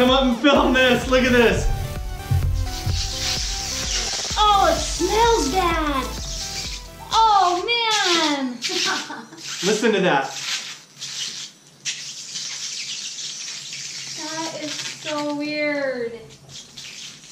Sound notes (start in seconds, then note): 3.0 Orbeez squealing; 11.6 Orbeez squealing